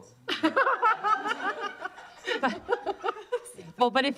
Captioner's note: laughter